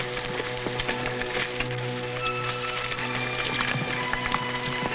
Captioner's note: horse hooves pattering